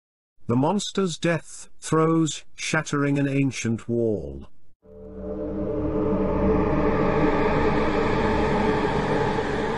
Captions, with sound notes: The Monster's Death Throes Shattering An Ancient Wall... (Errie Sound)